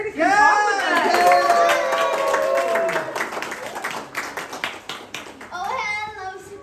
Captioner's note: applause